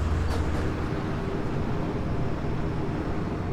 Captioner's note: strong wind